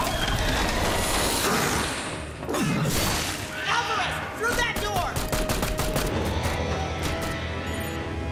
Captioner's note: gunshots